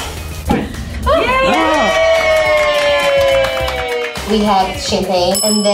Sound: cheers and applauds

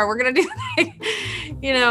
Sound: laughs

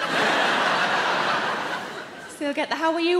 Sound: audience laughing

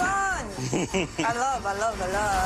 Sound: laughs

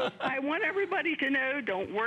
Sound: laughter

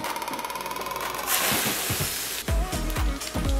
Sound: griddle sizzles; upbeat music

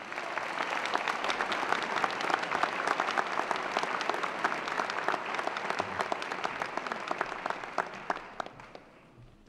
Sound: applause

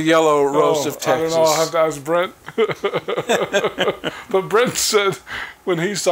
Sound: chuckling

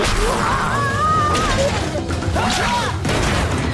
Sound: grunting

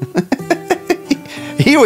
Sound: Rocky laughing

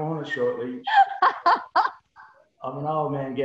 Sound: laughs

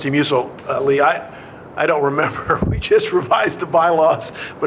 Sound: chuckles

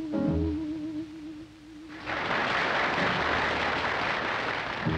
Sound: audience applauding

